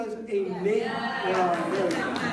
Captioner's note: applause